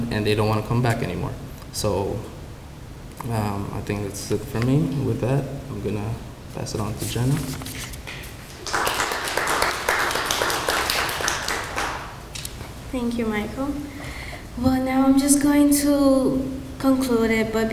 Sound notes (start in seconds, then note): 8.4 applause